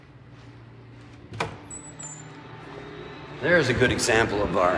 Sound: door creaks

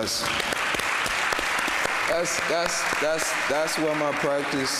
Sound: audience applauding

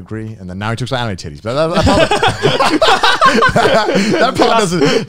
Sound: all laughing

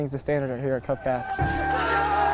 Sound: sounds of football practice

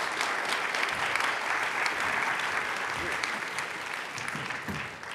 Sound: audience applauds

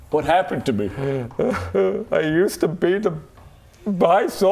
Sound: boo hoo

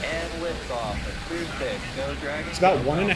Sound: rocket engine roaring

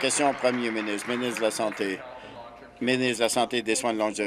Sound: applause

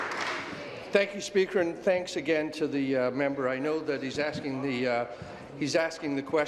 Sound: applause

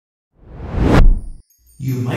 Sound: logo whooshes

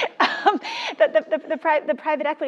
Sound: laugh

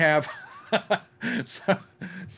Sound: laughs

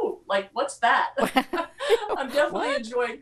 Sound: laughs

